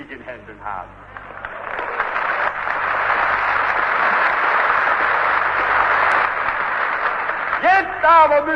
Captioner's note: applause